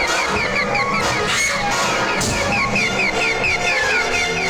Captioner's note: eerie music; Connie screaming; eerie music